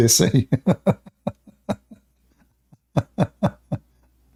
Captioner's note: Ketawa